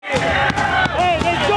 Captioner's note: everyone shouting